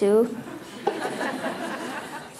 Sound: laughter

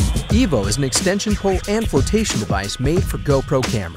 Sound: voiceover

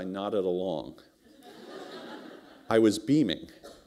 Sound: laughter

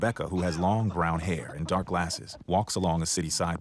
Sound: laughter

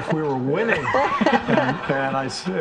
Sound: all laughing

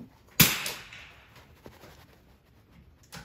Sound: gun bangs

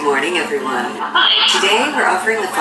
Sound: audience chatting

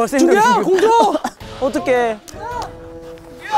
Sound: panting hard

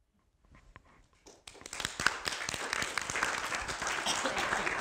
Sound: applause

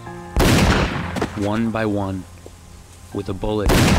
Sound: gunfire blasting

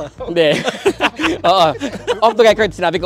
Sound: laughs

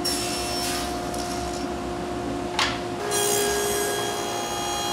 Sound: machine whirring

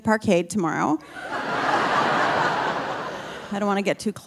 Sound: audience laughing

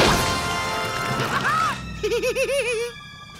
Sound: laughing

